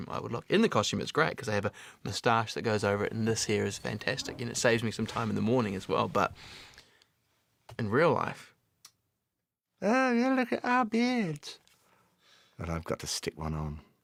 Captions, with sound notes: In the costume it's great. I have a mustache that goes over it... ...and this here is fantastic. And it saves me some time in the morning as well, but in real life: [IN HIGH-PITCHED VOICE] "Oh, look at our beards." [IN NORMAL VOICE] Then I've got to stick one on.